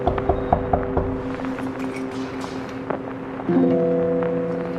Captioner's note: knocking at door